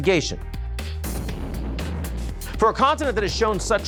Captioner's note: explosion blasting